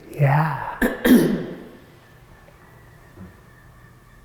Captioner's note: clears throat